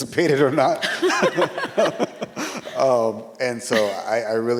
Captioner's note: all laughing